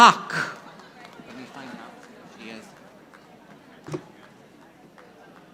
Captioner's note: audience applauding